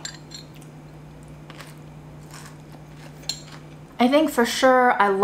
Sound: salad crunching

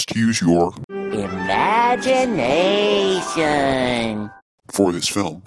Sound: Spongebob voice

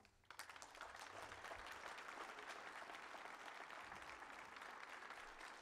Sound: applause

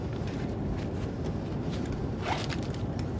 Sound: bag rustling; bag unzipping

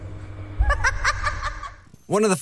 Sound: laughter

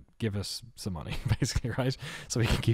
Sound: chuckles

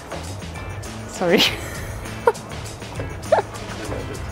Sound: laughter

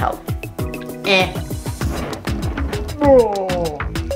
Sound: jeers

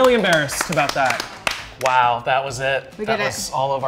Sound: all clapping

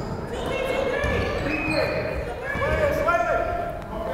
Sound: fans shouting

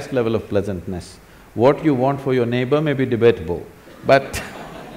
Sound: laughter

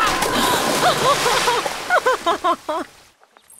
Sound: laughs

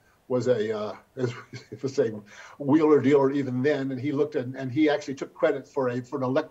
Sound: chuckles

